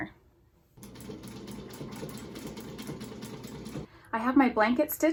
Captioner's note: sewing machine whirring